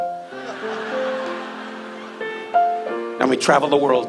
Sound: audience laughs

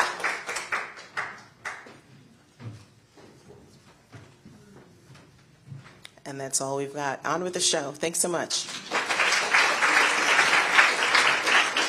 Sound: applause

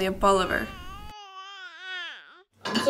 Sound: baby coos

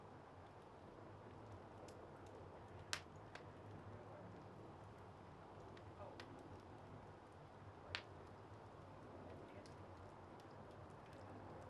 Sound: crackling fire

